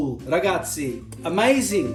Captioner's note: speaks Italian